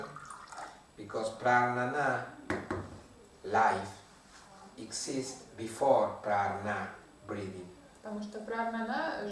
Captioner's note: breathing